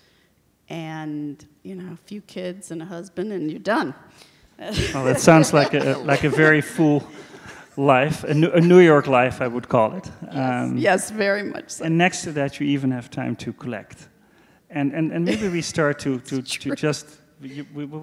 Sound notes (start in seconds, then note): 4.7 laughs